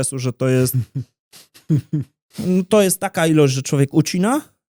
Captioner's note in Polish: śmiech